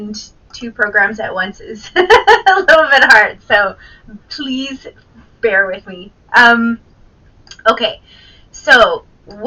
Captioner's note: laughs